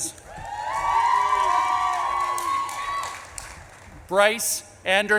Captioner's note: audience claps and cheers